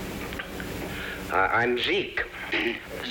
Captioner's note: clearing throat